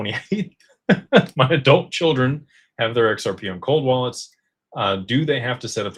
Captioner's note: laughter